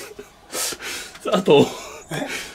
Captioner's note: laughter